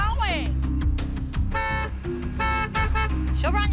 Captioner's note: horn honking